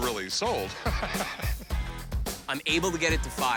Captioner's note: laughs